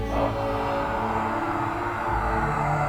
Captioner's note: sighs